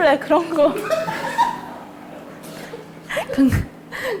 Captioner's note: burst into laughter